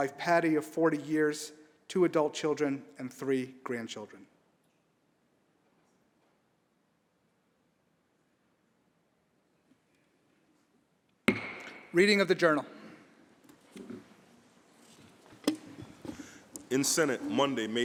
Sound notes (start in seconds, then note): 4.4 moment of silence